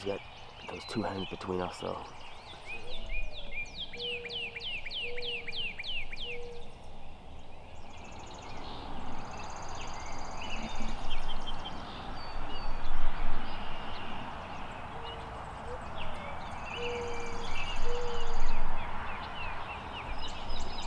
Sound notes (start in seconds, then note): 3.4 birds chirp; 4.9 owl hoots